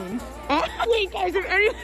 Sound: laughter

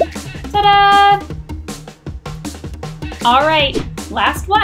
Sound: air popping

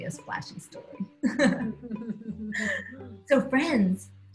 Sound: laughing

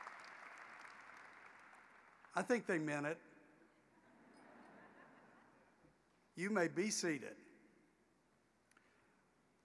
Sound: applause

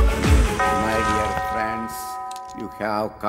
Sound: bell tolling

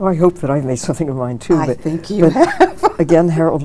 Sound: chuckles

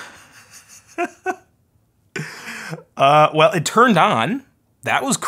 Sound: chuckles

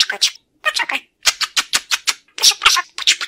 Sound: air kissing

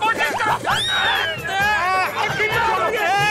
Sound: indistinct chatter

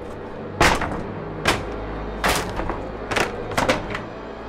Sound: wood splintering

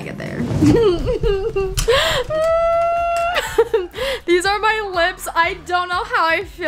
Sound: laughs

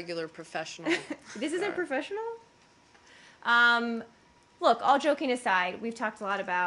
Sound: laughter

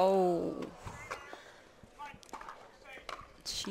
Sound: groans

